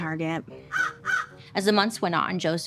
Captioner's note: Joan squawking